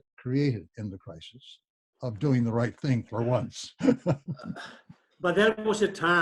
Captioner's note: laughs